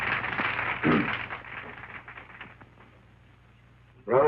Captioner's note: clears throat